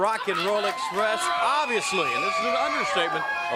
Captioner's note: crowd cheering